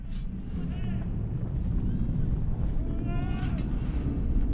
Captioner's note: fire roaring